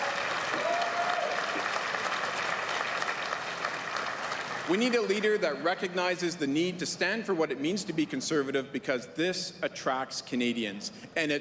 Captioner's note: applause